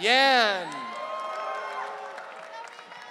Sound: audience cheering

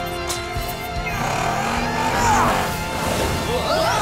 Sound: grunting

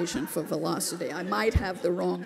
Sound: laughter

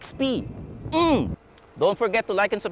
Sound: grunts

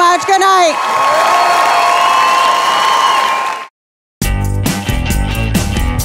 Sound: audience cheering and applauding

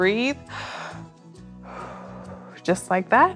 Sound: inhales and exhales

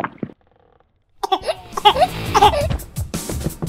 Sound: cough

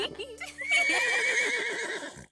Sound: laughs; horse whinnies

